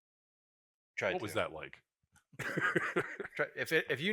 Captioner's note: laughs